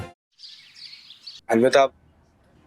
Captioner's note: birds chirping